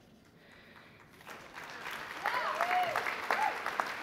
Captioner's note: applause